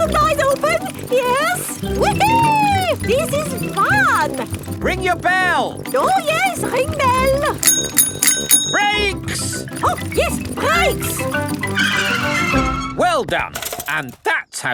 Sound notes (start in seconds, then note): 5.8 rings bell; 12.0 tires screech